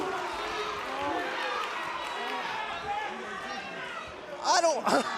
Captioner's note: crowd cheering